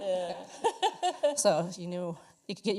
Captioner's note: laughter